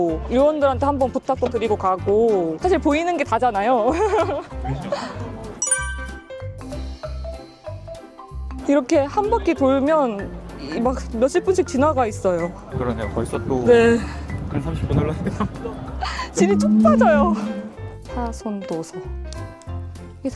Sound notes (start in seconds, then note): 3.8 laughter